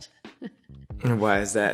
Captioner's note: laughs